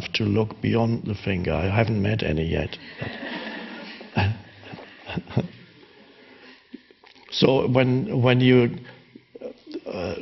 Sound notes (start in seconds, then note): 3.0 audience and Eckhart laughing in unison